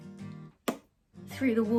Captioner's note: punching sound